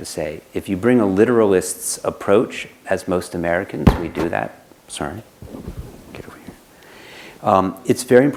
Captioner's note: whispers